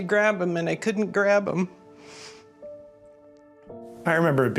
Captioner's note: sniffling